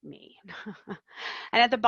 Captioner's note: laughs